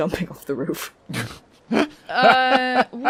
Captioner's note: laughs